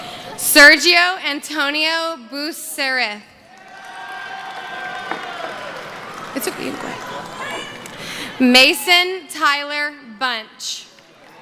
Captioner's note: cheering